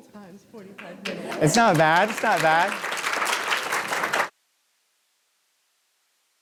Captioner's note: audience applauding